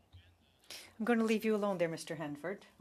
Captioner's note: speaking French